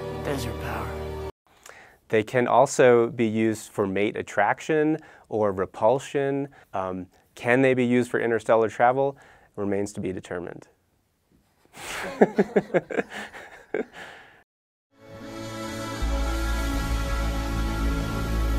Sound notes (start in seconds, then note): 0.0 dramatic music; 11.8 laughing; 15.1 eerie music